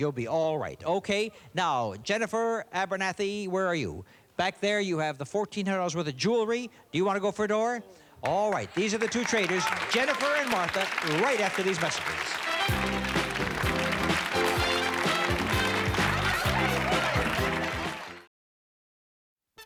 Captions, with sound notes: Okay, now, Jennifer Abernathy, where are you? Back there, you have the $1,400 worth of jewelry. Do you wanna go for door? All right, these are the two traders, Jennifer and Martha, right after these messages. (theme music playing) (cheers and applause)